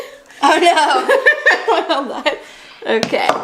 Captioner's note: laughs